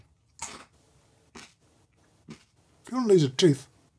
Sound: crunching

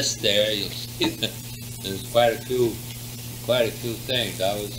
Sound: laughs

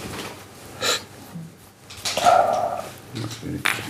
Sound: laughing

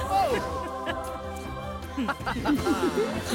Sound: laughing

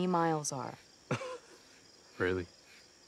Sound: chuckles

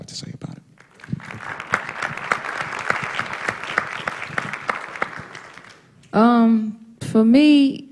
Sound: applause

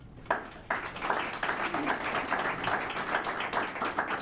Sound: applause

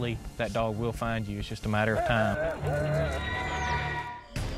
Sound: dog barking

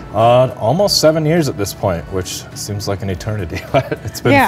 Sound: laughs

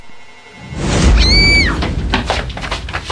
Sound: girly scream

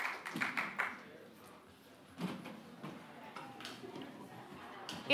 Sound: muffled chatter

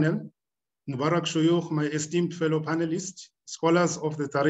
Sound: speaking arabic

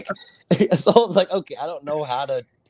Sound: both laughing

